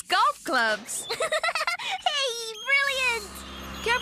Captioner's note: giggling